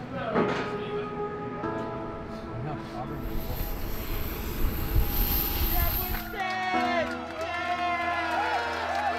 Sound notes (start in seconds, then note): 3.2 plane engine roars; 6.1 crowd cheering; 8.4 clapping; 8.4 crowd cheering intensifies